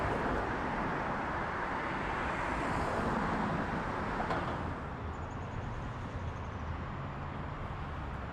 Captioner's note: Ambient Hampton-type traffic noises